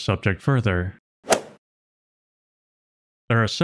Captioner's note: golf ball hit sound